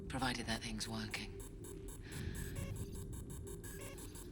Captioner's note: bomb beeping faster